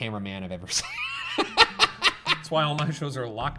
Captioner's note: laughs